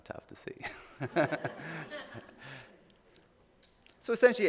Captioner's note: laughing